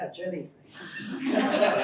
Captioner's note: laughter